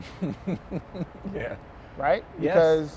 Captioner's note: chuckles